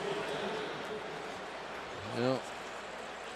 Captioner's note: pa announcement